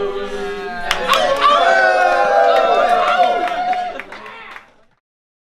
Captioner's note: applauding and howling